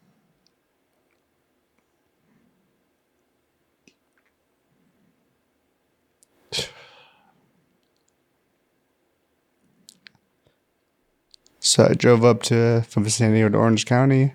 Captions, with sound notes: (Sighs) So I drove up to San Diego to Orange County.